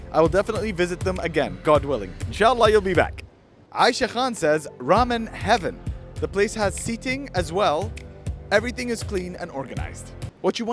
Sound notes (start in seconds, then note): 2.4 speaks Arabic